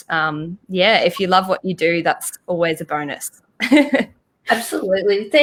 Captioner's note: chuckles